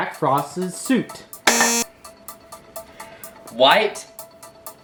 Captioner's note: beep